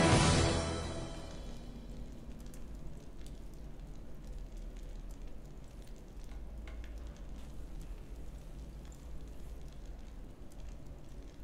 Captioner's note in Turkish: Odun yanma sesleri